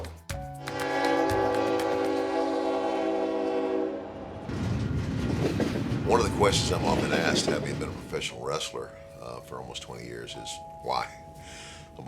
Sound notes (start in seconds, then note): 0.6 train horn blaring; 4.1 train rumbling